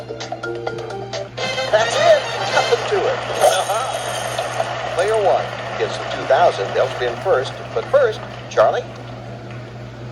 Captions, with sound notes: [Pat] That's it! Nothing to it. (Martin Cheers) Player 1 gets the $2,000 and they'll spin first. But first, Charlie?